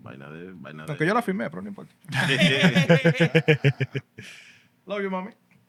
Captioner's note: speaking Spanish; laughter